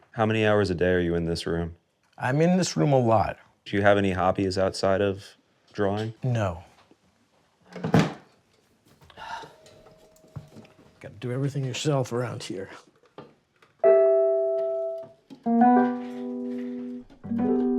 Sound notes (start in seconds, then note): 7.8 object thuds; 9.1 sighs